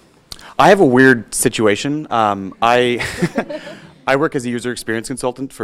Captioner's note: laughing